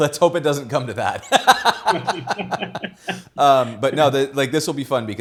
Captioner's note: both laughing